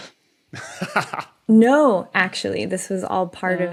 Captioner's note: laughs